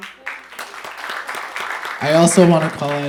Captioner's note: audience applauding